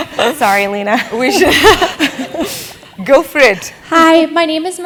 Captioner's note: laugh